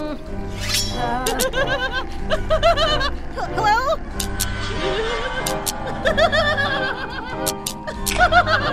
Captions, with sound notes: *evil laughter* Hello... hello?! *giggles*